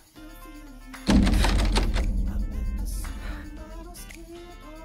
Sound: loud banging

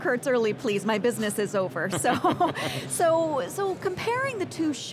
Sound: both laughing

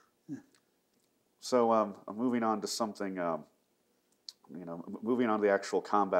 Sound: laughs

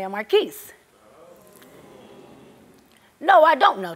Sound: audience oohing

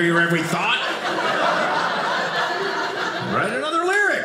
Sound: audience laughing

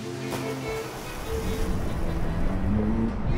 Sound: water splashes

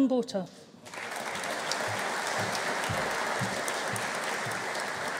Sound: audience applauding

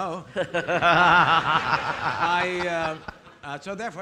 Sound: audience laughing

